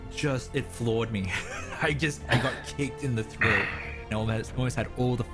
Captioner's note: laugh